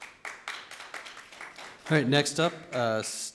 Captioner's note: audience applauds